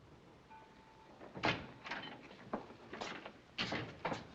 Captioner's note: door opens